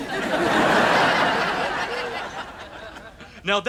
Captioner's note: audience laughter